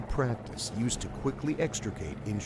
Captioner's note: voiceover